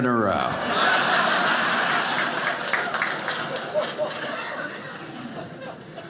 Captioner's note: audience laughing